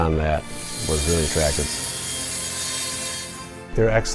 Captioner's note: saw buzzing